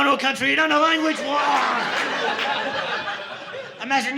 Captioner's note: audience laughing